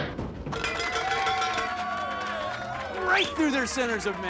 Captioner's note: <i> cheering</i>